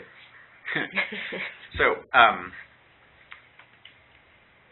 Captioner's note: laughter